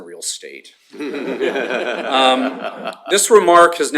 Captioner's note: laughter